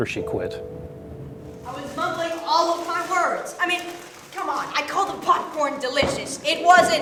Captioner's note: yelling